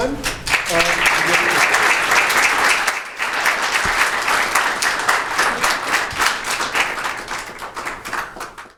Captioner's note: applause